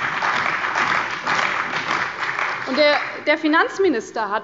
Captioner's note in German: Beifall bei der CDU und dem BÜNDNIS 90/DIE GRÜNEN